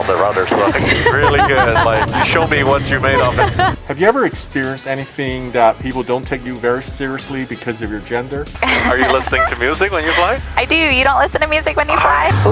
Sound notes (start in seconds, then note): 0.8 woman laughing; 8.6 woman laughing